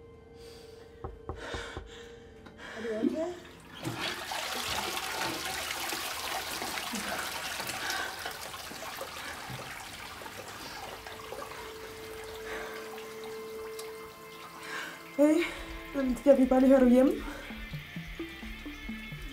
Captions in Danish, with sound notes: (Det banker på badeværelsesdøren) Er du okay? Hey... Jeg ville bare lige, høre om du er hjemme?